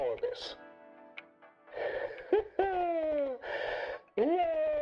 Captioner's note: laughs